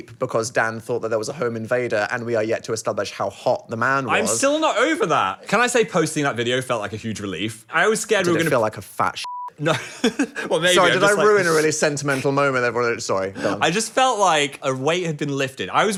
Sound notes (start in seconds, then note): 9.2 beep; 10.6 laughs